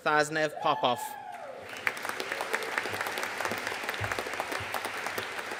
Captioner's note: audience cheering and applauding